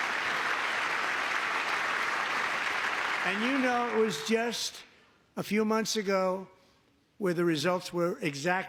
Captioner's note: applause